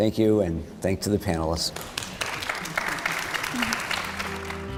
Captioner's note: applause